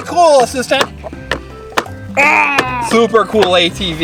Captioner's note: assistant growls